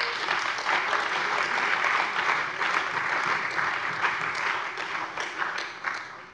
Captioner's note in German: Beifall bei der CDU und dem BÜNDNIS 90/DIE GRÜNEN